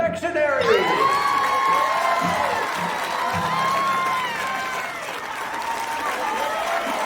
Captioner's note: audience cheering; audience clapping